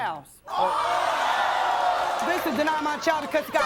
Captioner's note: audience groans